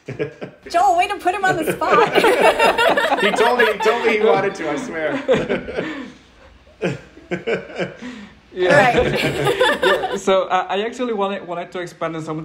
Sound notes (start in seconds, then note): 1.3 all laughing; 1.5 laughing; 5.1 all laughing